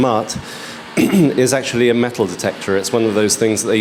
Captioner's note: clears throat